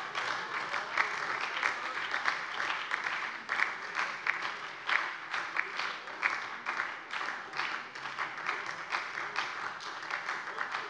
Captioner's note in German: Anhaltender lebhafter Beifall bei der SPD und der LINKEN